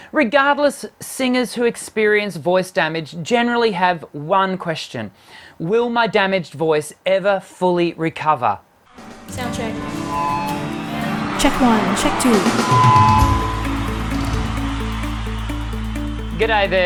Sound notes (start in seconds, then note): 9.8 microphone squealing; 13.7 upbeat music